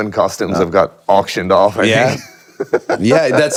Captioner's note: laughs